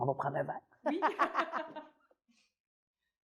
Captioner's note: laughs